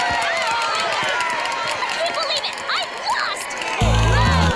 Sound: cheers

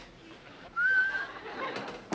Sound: whistles

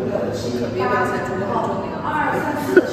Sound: murmuring

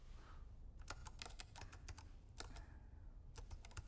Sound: keyboard typing

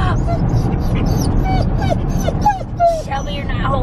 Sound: whining

